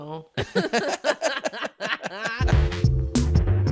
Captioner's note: both laughing loudly; upbeat music